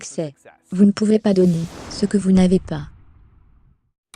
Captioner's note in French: explosion